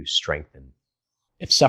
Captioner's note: beat